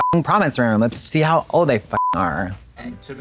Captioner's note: beep; beep